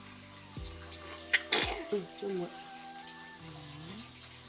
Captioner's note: sneeze